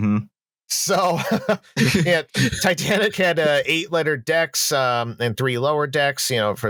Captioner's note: laughing